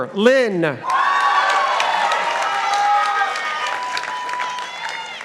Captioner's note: participants applauding